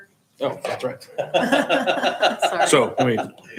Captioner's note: laughing